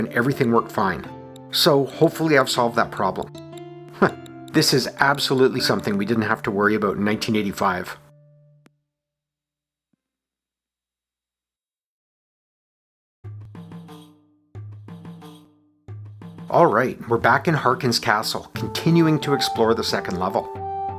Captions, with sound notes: and everything worked fine. So hopefully I’ve solved that problem. [chuckles] This is absolutely something we didn’t have to worry about in 1985! [soft medieval music] Alright, we’re back in Harkyn’s Castle, continuing to explore the second level.